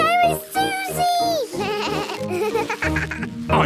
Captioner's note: bleating, laughing